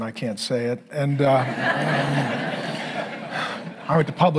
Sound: congregation laughing

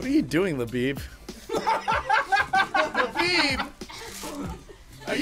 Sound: laugh

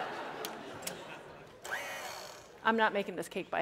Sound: laughter; whirring

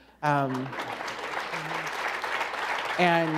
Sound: applause

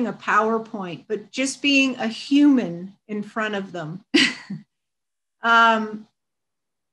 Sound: chuckles

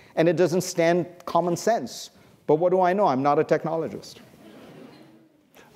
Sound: laughter

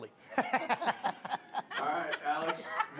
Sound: laughing

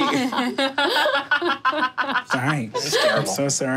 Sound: laughing

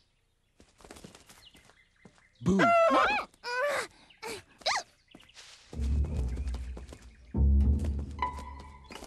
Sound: struggling

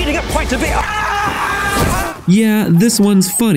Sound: Mr. McGregor screaming

